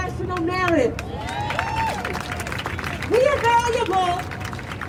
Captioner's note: crowd cheering